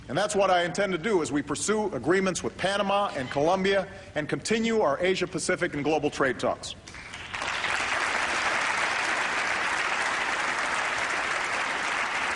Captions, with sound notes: And that's what I intend to do as we pursue agreements with Panama and Colombia and continue our Asia-Pacific and global trade talks. [APPLAUSE]